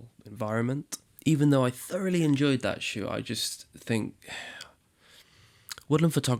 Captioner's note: sighs